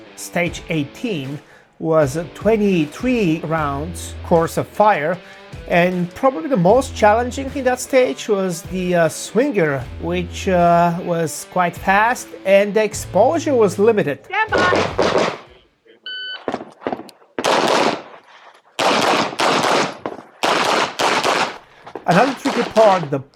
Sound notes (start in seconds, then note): 14.5 gunshots banging; 16.1 machine beeping; 18.8 gunshots banging